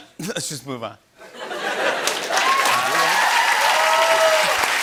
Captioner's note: cheers and applause